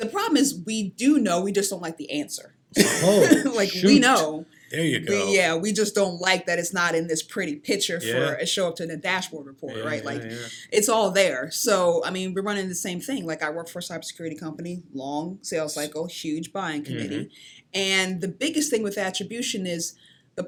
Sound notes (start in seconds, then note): 2.8 laughs